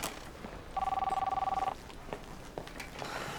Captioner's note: phone rings